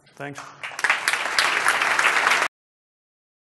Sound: applause

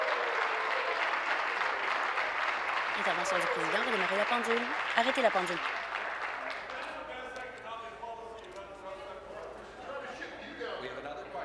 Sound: applause

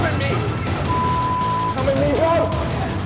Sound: beeping

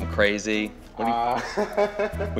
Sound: laughs

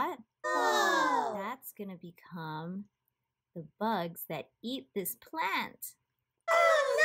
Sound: evil laughter

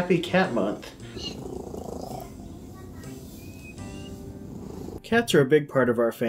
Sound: loud purring

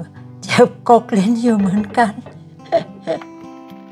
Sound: laugh

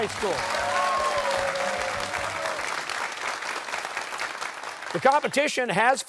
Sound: cheers and applause

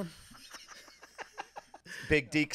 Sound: both laughing

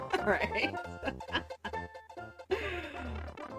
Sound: both Laugh; laughs

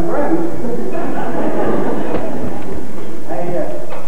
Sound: laughter

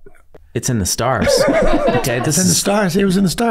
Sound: all laughing

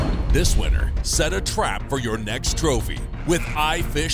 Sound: dramatic music; voiceover

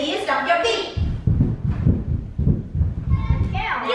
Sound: feet stomping

